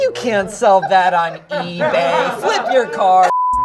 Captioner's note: snickering; laughing